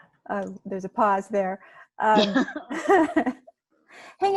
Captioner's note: laugh